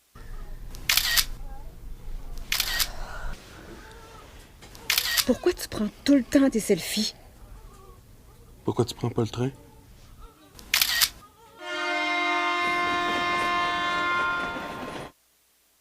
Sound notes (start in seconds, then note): 11.6 Sifflet de train